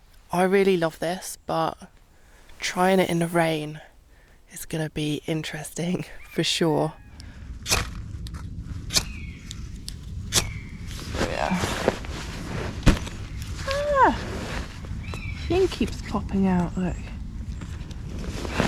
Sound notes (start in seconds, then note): 12.7 pop